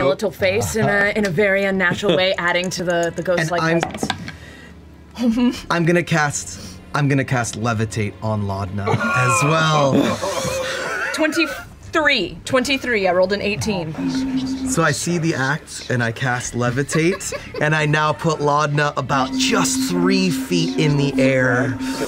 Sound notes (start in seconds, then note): 9.8 the cast laughs; 13.9 creepy music and whispers; 19.1 creepy music and whispers